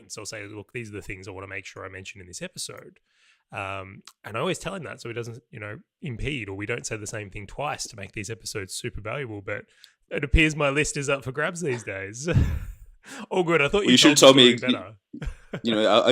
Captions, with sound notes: So I'll say, "Look, these are the things I want to make sure "I mention in this episode," and I always tell him that so he doesn't, you know, impede or we don't say the same thing twice to make these episodes super valuable but it appears my list is up for grabs these days. (laughter) Oh, good, I thought you were totally gonna do better. - Well, you should have told me, you know,